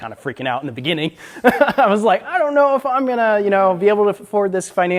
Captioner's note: laughs